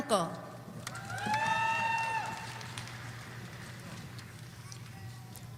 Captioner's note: audience cheering